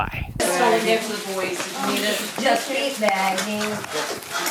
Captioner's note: children chattering